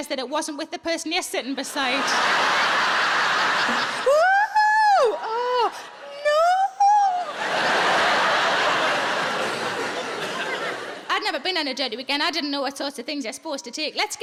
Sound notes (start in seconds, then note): 1.6 audience laughing; 7.1 audience laughing